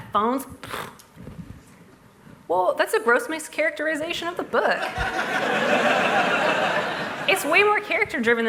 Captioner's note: laughter